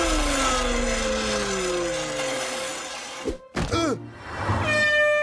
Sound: groaning

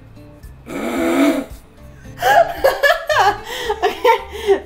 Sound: laughing

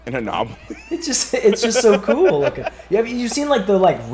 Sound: laugh

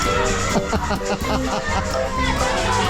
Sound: laughing

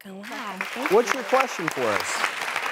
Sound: clapping

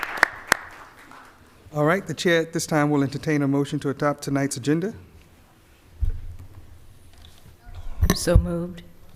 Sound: applause

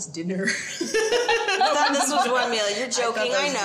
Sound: both chuckle

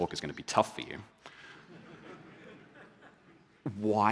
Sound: laughter

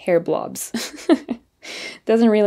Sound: chuckles

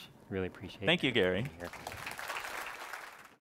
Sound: applause

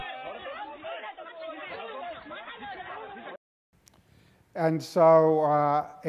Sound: yelling in foreign language

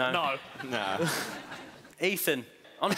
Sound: laughing

